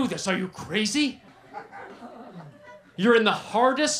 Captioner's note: laughter